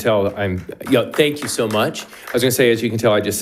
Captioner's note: attendees clapping